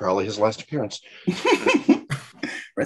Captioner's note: laughing